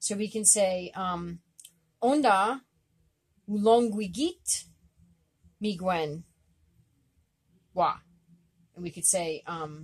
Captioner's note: speaking Abenaki